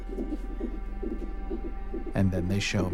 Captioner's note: heart beating on ultrasound